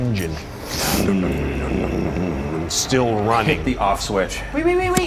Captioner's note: motor rumbling